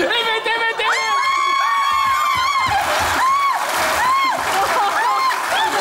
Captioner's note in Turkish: Alkış sesleri